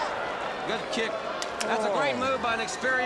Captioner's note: crowd cheering